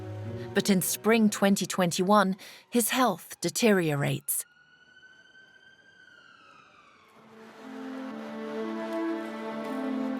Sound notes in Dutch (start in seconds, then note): 4.3 sirene jammert; 7.3 langzame muziek